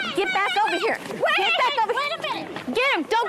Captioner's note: shouting